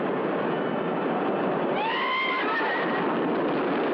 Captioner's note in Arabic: صراخ